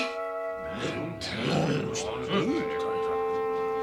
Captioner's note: murmurs among the lawmakers